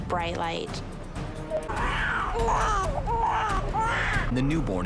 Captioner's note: tense dramatic music; baby crying